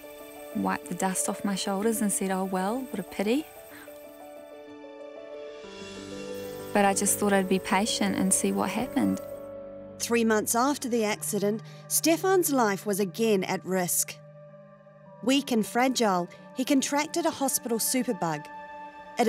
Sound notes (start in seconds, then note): none